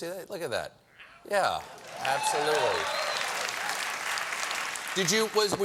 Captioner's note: applause